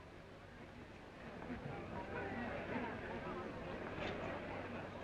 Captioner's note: crowd murmuring